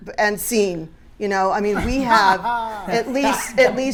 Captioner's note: panelists laughing